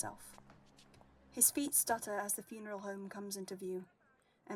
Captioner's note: footsteps stop